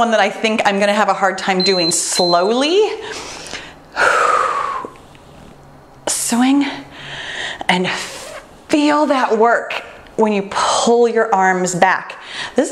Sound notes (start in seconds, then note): 1.6 timer beeps; 3.9 exhales deeply